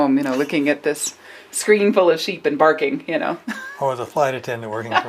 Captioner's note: laughs